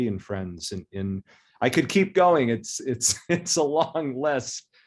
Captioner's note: chuckles